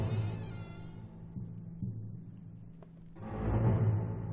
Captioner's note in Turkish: Kapı gıcırdama sesi